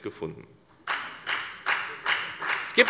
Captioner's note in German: Beifall bei der FDP